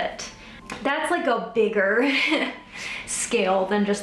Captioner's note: laughs